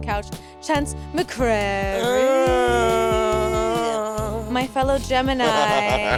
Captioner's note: gruning; Monét laughing